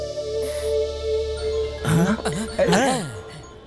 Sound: phone rings

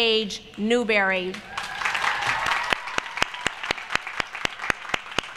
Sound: applause

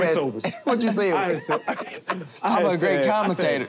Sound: laughter

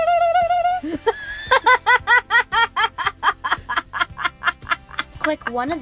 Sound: laughing

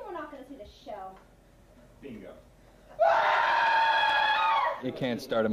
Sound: screaming

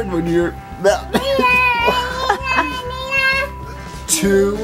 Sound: coughing

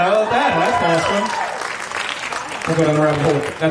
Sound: audience laughing and clapping

